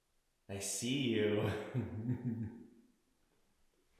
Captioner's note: laughs